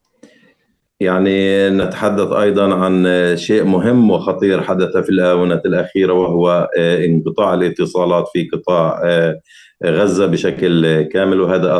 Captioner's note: speaking arabic